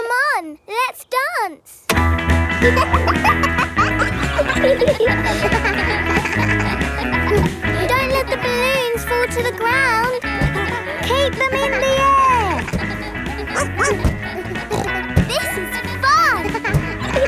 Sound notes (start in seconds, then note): 2.7 pop music playing; 3.3 kids laughing; 13.9 barks; 15.1 snorts